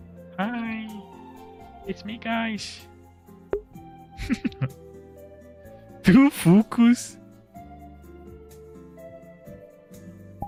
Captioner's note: laughter